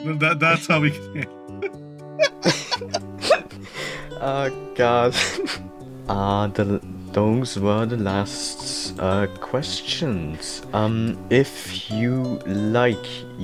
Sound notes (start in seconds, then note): 2.2 both Laughing